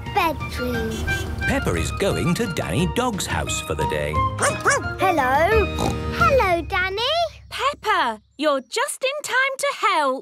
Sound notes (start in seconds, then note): 4.4 barking; 5.7 snorting